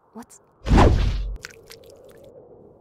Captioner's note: clean slice and blood splatters